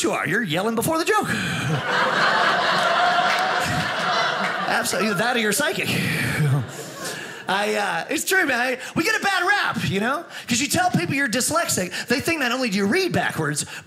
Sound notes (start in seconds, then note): 1.6 audience laughing